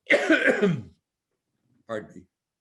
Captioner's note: coughs